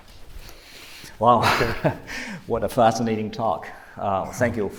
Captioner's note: chuckles